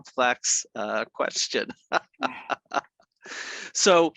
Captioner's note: laughing